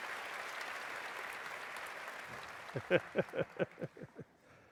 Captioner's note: applause; laughter